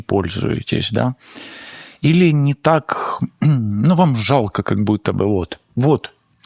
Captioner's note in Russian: откашливается